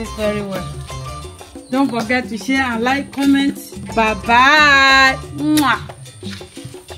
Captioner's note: kisses